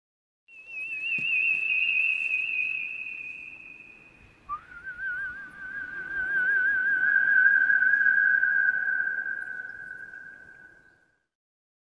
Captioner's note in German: pfeifen